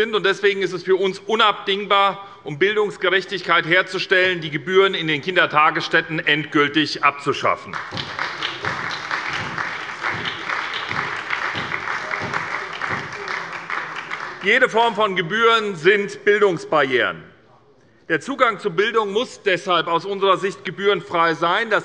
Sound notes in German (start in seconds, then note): 7.6 Beifall bei der SPD